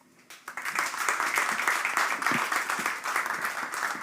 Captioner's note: applause